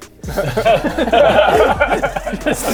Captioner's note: gutter-mind laughter